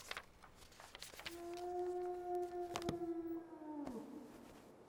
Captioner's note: wolf howling